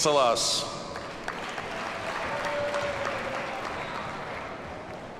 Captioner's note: audience applauds